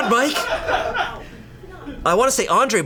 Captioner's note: colleagues laughing